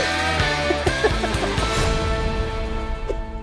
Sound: laughs

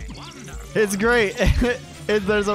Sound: chuckles

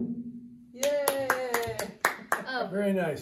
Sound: clapping

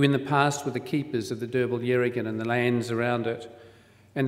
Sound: foreign word spoken

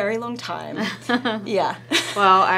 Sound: laughter

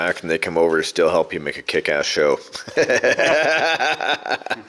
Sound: laughs

